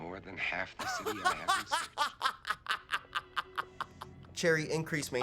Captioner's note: laughing continues